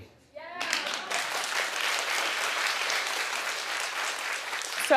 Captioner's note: audience clapping